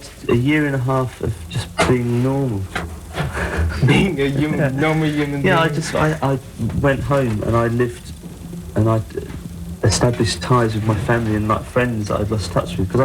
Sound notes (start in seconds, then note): 3.0 laugh